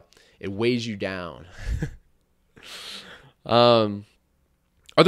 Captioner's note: chuckles